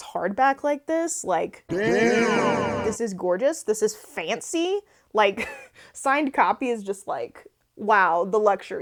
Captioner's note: "DAMN" voiceover sound effect